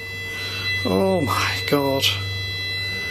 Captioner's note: machine beeping